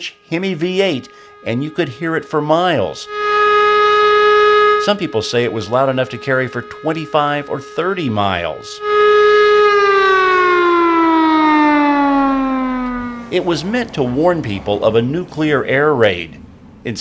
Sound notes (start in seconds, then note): 8.9 siren